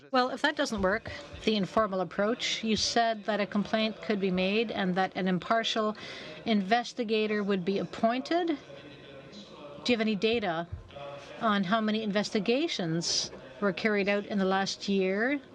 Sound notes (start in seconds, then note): 4.5 speaking French